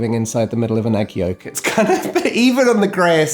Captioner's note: chuckles